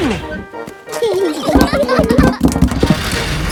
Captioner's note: children giggling